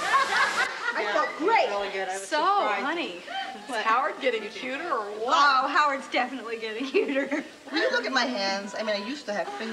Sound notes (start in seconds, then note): 3.2 laughs